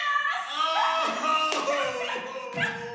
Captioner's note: laughter